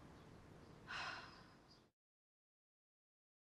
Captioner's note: sigh